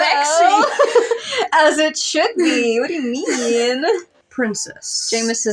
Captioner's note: laugh